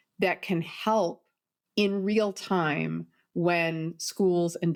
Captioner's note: none